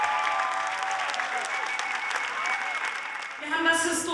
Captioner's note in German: Jubelrufe